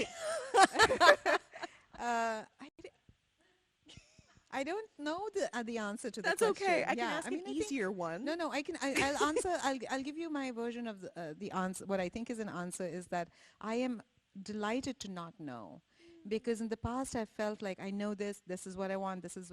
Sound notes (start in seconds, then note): 0.0 people laughing; 9.0 laughs